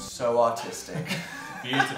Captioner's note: laughs